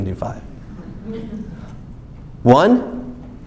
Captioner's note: someone vocalizes apprehension